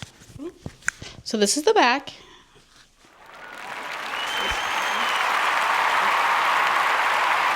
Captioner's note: applause